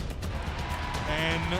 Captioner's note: crowd cheering